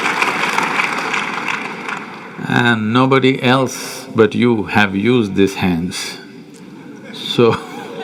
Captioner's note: laughter